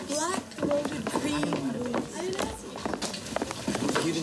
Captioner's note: people chattering